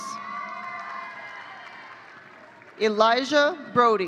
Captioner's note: audience cheering